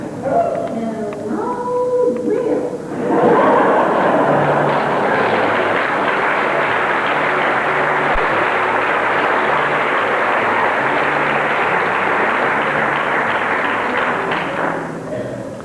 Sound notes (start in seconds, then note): 2.9 laughter; 4.7 applause; 13.4 music fades